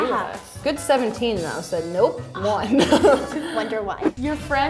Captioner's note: laughing